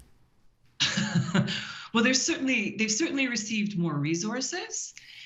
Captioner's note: chuckling